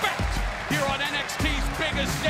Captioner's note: crowd cheering